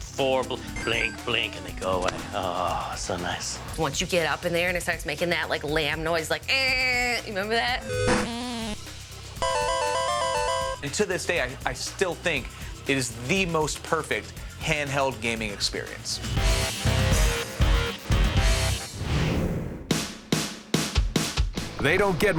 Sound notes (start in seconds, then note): 0.0 arcade music plays; 8.7 bleating; 9.2 bleating sound; 9.3 arcade music plays